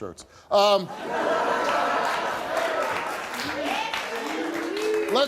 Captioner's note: audience laughing